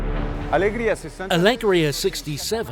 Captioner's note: in foreign language